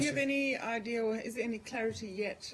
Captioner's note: sneezes